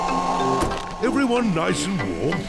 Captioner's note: heater whirrs